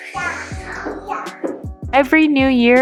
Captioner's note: toddler sounds